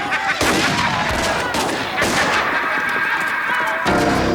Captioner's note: Twister laughs; guns fire; ominous music